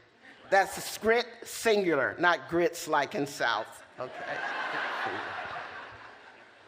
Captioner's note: laughter